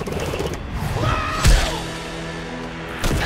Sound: grunting

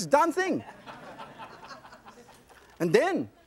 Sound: audience laughs

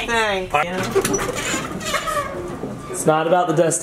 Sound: laughing

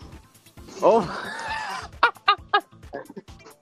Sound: laugh

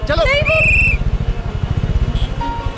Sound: whistle blowing

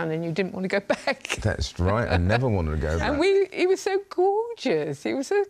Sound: laughs

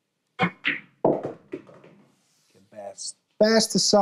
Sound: balls clanging

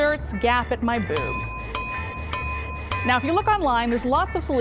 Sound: dinging

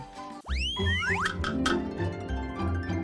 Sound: slide whistle blows; upbeat pop music

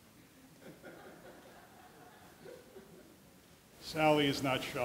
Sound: audience laughing

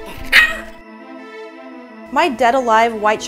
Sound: monkey yelping

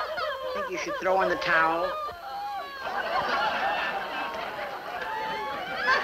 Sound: women laughing loudly

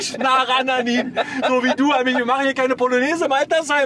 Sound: laughs

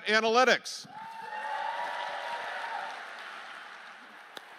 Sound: applause

